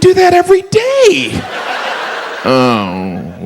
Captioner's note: audience laughs